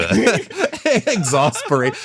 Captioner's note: laughing